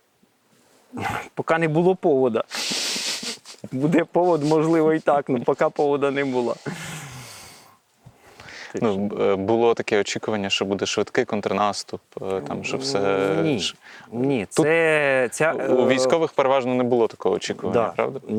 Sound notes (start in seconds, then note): 2.6 both laugh